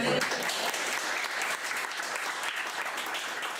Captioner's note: applause